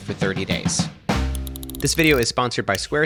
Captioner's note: gear cranks